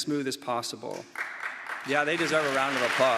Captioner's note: audience claps